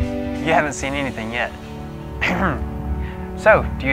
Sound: clear throat

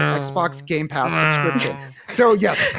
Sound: imitates cars racing past

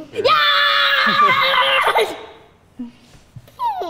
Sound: screaming

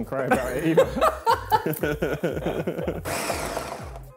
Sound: laughing

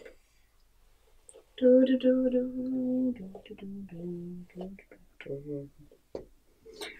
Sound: hums

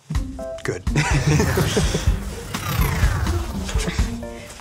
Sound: both laughing

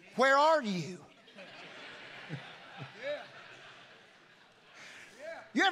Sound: congregation laughing

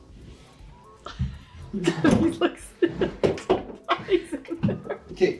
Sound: chuckling

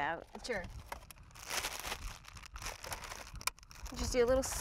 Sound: crinkling plastic bag

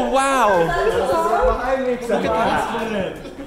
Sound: friends chatter

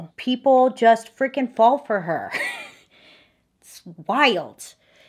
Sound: giggles

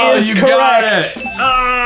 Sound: groaning

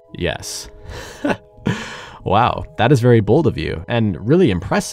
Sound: boss laughs

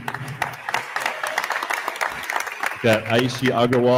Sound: attendees applauding

